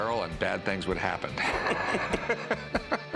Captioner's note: laughter